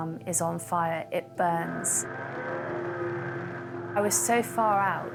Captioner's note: boat droning